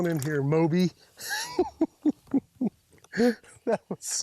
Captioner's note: laughs